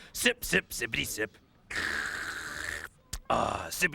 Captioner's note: slurps loudly